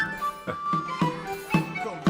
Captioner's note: NinjaFish laughs